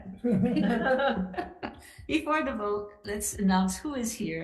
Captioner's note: legislators laughing